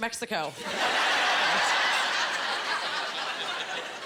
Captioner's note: laughing